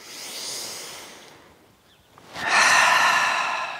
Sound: breathing

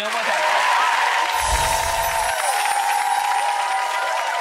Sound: audience cheers

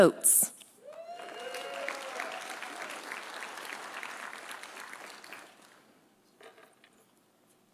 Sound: audience cheering; audience applauding

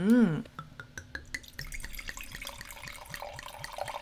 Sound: wine pours

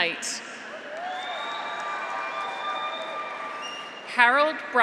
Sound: graduates cheer; audience applauds

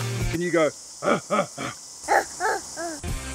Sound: Mini Tim the Tool Man Taylor Grunt; Tim the Tool Man Taylor Grunt

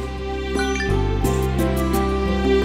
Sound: cell phone chimes

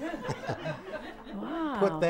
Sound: laughing

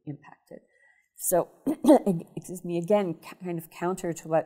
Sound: coughing

